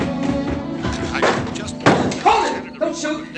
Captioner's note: radio news continues